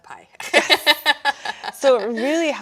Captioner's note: laughing